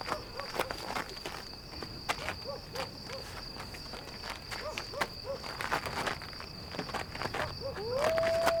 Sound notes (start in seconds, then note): 3.7 crickets chirping